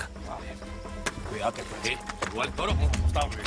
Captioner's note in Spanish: Palmadas